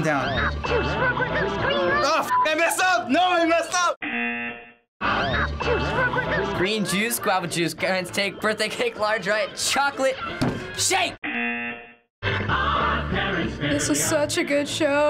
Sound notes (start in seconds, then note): 4.0 buzzer; 6.5 singing along; 11.2 buzzer